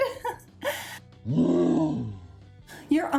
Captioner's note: Hulk grunts